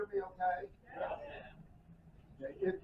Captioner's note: crowd